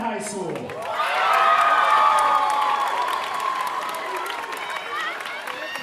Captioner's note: audience cheering and applauding